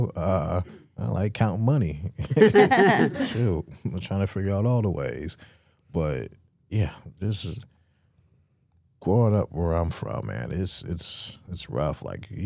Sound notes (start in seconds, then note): 2.2 hosts laughing